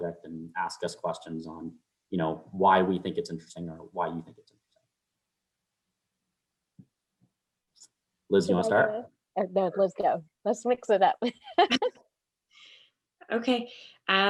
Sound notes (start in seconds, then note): 11.2 laughs